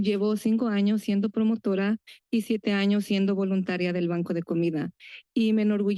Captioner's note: foreign language